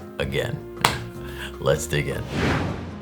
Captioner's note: clap